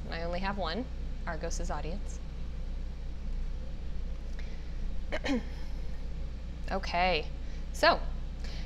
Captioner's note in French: toux